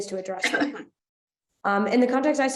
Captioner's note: participant coughs